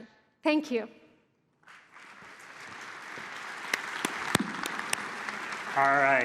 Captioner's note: applause